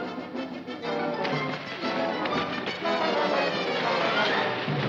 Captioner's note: water splashing